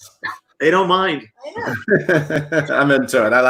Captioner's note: laughs